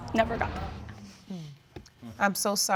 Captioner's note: audience sigh collectively